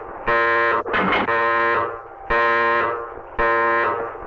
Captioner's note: hatch clanking